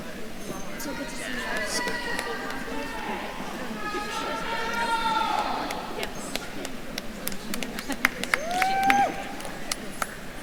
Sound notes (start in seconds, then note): 4.1 attendees chattering; 4.1 attendees cheering